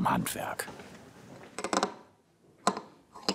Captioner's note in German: Knattern